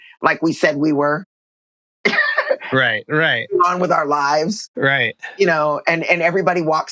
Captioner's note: laughter